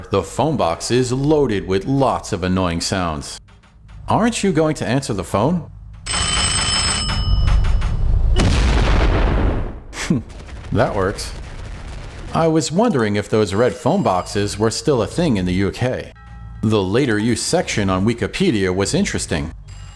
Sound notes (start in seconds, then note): 5.7 ringing!; 7.9 boom!